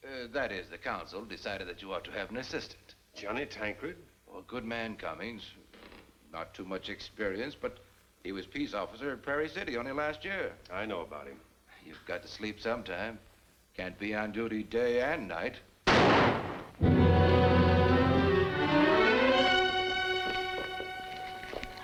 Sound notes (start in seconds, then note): 15.8 gunshot; 16.4 dramatic music plays